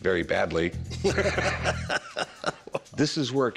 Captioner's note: laughter